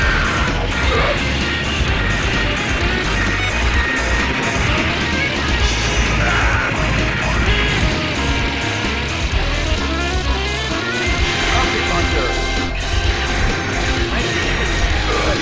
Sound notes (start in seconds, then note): 8.4 Spanish